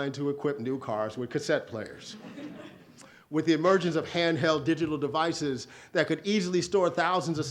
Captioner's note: audience laughs